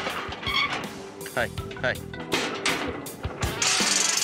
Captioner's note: clanging sound